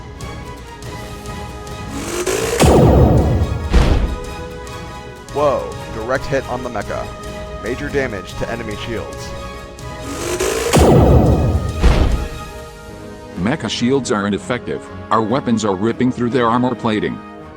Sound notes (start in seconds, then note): 1.9 zap; 3.5 boom; 10.0 zap; 11.8 boom